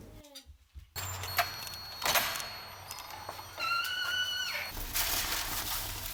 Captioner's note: sound of a heavy wooden door opening